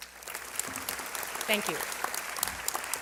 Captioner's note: applause